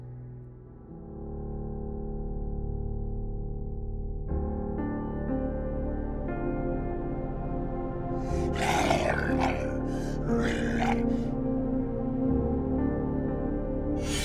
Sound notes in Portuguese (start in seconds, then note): 4.2 música calma; 8.2 rosnados; 11.8 música calma; 14.0 espada afiando